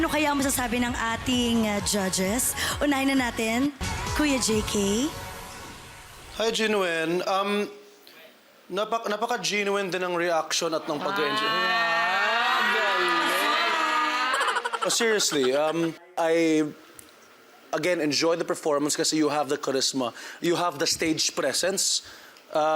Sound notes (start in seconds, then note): 10.9 crowd cheers; 14.7 silly sfx